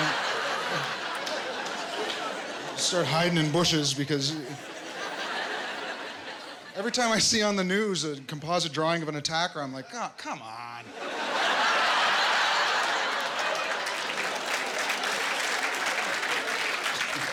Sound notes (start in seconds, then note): 10.9 laughter; 12.1 applause